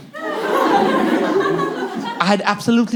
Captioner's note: here comes the accent